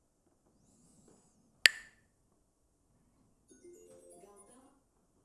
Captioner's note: clacks the sticks